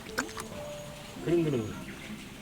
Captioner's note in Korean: 골골송